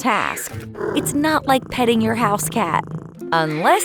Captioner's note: purring